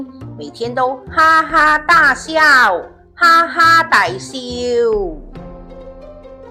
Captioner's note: Cantonese